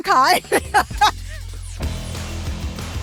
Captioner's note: laughter